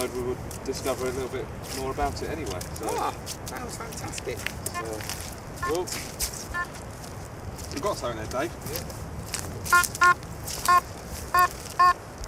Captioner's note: metal Detector Beeps; more beeping